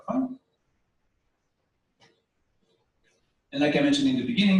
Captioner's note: pause